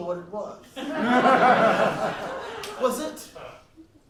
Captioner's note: laughs